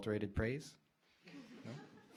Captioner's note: laughing